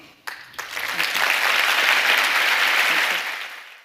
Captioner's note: applause